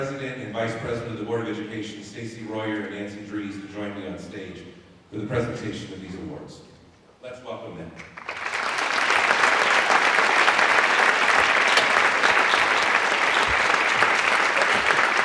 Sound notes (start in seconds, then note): 12.7 applause